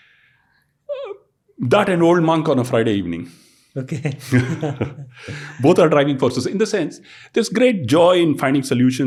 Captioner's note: chuckles